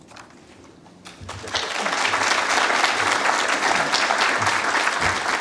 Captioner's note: applause